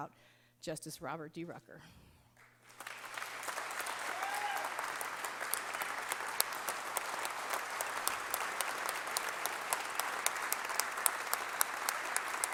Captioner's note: applause